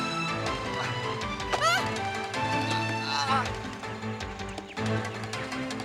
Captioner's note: Jane yells in surprise